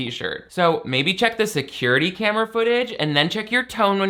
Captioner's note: none